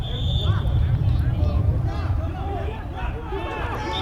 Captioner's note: whistle